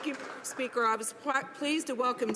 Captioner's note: some Applause